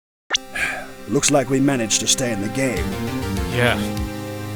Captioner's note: sigh